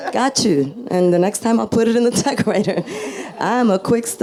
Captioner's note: laughs